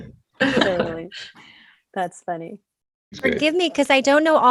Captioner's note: all laughing